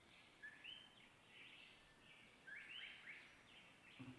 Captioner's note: birds chirping